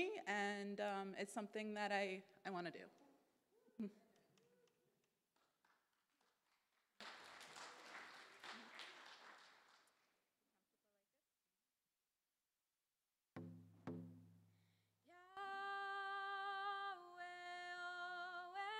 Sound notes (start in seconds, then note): 6.9 audience applause